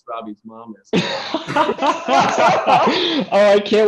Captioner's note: laughter